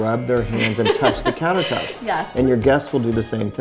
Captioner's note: laughs